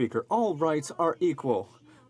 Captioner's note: speaking in french